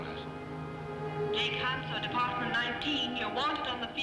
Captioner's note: woman on PA